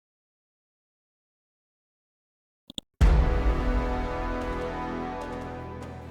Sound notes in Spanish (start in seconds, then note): 2.7 clics del ratón; 3.2 Acorde musical